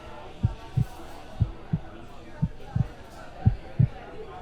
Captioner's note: heartbeat thumps